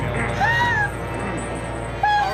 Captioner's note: gasps